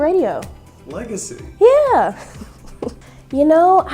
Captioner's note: laughs